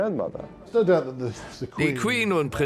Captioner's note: voiceover